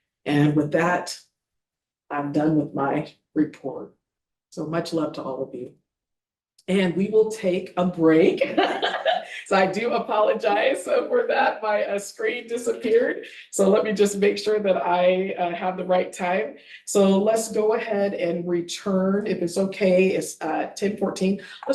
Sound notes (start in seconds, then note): 8.3 board members laughing